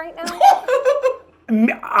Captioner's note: laughing